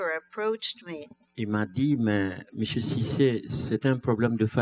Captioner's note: speaking french